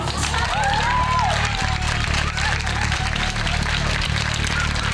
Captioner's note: audience applauds